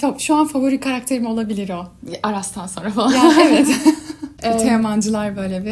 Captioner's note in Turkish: kahkaha